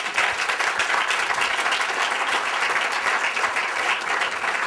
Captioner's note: applause